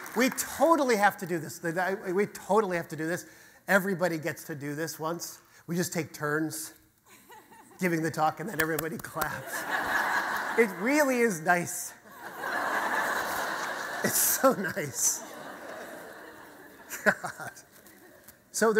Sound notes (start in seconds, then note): 9.3 audience laughter